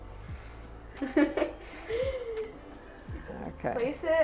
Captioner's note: chuckles